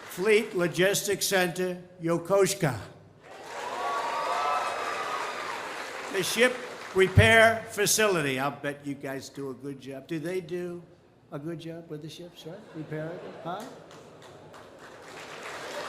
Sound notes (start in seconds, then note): 3.2 applause; 12.6 laughter; 13.6 applause